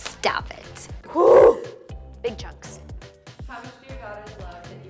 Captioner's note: loud exhaling